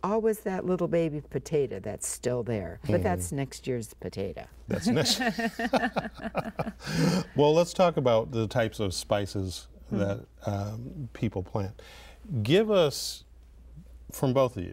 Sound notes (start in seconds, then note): 4.8 laugh